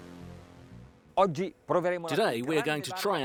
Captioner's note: speaking in foreign language